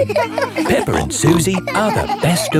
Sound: all laughing

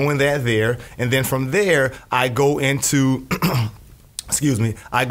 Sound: coughs

